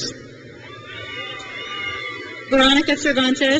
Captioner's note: crowd cheers